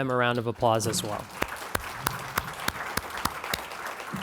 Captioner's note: clapping